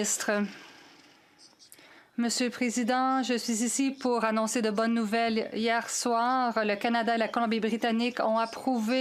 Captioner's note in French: voix de l'interprète